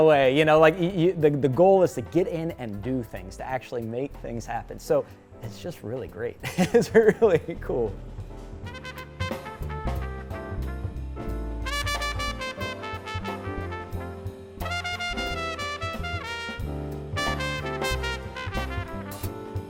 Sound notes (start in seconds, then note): 6.4 laughs; 8.6 smooth jazz music